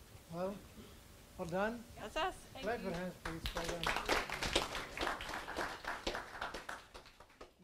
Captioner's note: audience applause